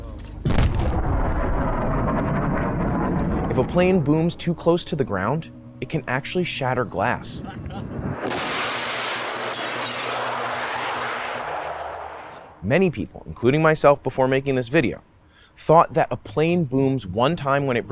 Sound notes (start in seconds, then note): 0.6 plane booming; 8.2 plane booming; 8.2 glass shattering